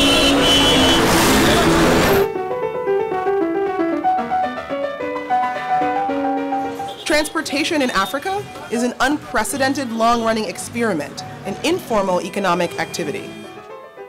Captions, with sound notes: (horns honking) (instrumental piano music) - [Voiceover] Transportation in Africa is an unprecedented long-running experiment. An informal economic activity.